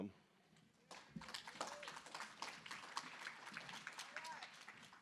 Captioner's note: applause